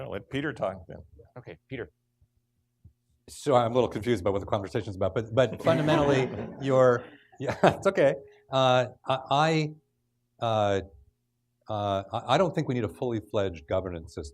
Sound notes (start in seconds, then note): 5.6 laughing